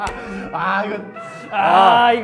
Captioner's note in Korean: 감탄